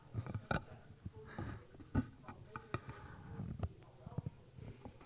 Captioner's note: attendee chattering